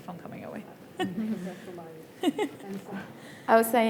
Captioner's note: panellists giggling